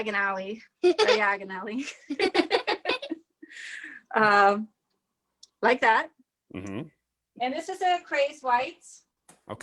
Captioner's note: chuckles